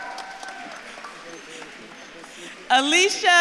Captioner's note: audience claps and cheers